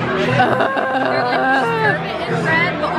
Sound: groaning

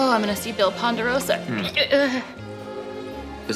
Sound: gags

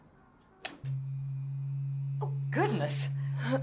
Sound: vibrator buzzes

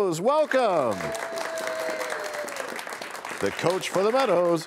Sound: cheers and applause

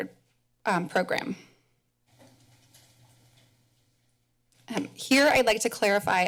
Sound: pause

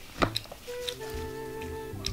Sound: chewing

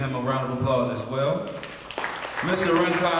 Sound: applause

